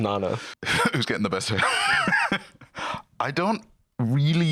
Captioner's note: laughs